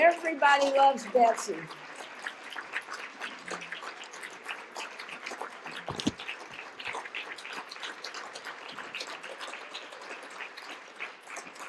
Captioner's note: continuing applause